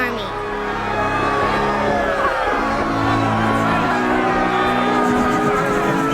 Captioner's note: all cheering